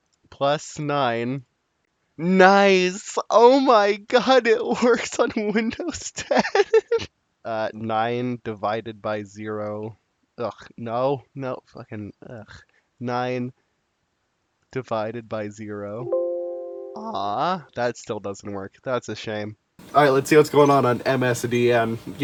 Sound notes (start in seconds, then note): 4.4 happily giggling; 16.1 Windows Exclamation sound